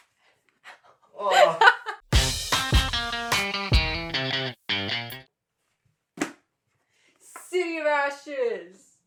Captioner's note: laughter